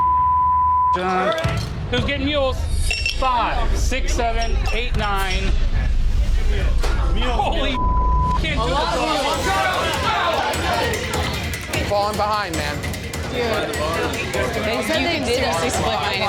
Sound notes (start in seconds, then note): 0.0 beep; 7.6 beep; 8.9 customers chatting